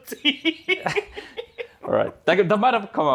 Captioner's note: continues laughing